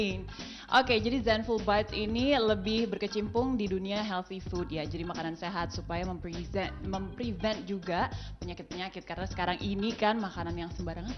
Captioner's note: non-english speech